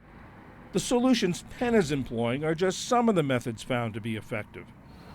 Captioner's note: voice-over